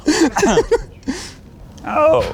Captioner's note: laughing